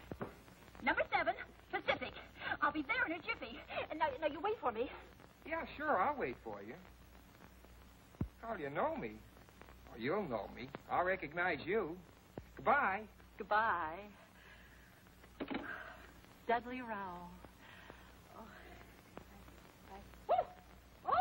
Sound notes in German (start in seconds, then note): 15.6 Seufzt